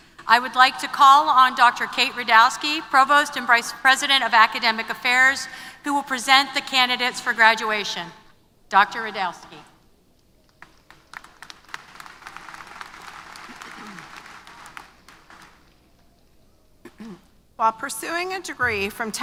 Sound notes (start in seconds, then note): 10.6 applause